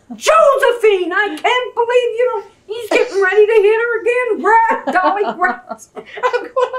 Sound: laughter

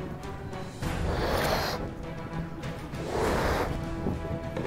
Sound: blowing up the balloon so hard

